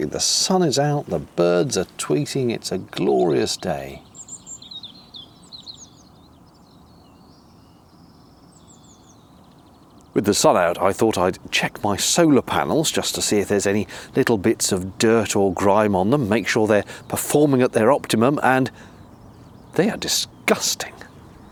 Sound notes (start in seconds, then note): 4.6 birds chirping